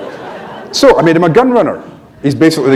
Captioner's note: laughter